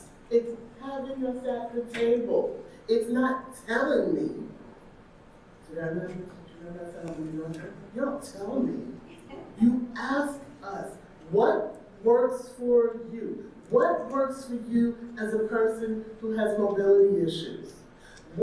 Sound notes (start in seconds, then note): none